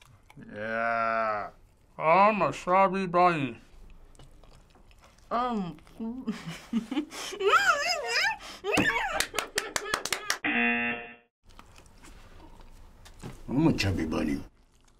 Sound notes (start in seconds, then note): 7.2 laughs and exclaims; 9.1 clapping; 10.4 buzzer